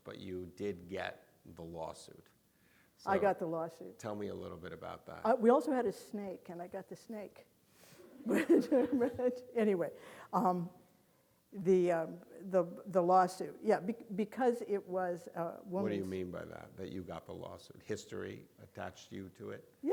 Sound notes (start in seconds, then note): 8.3 audience laughing